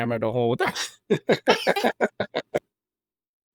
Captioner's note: both laughing